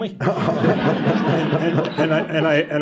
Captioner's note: laughter